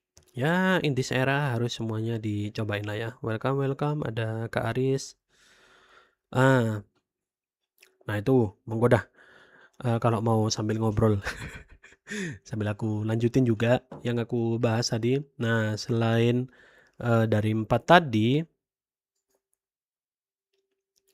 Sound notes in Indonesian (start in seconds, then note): 11.2 tertawa